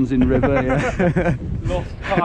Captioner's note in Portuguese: kkkkkk